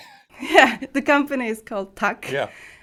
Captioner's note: chuckles